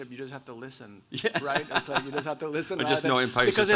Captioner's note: laughs